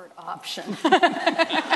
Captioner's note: laughter